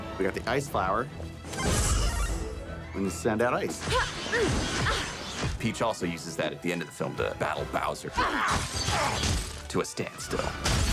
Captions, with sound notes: We got the Ice Flower. [Power-Up sound] -And you send that ice. -[grunting] Peach also uses that at the end of the film to battle Bowser... [grunting] ...to a standstill.